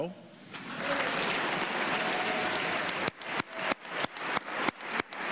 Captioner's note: applause